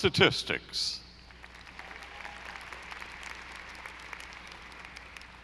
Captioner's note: audience applauding